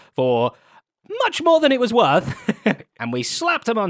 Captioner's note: chuckles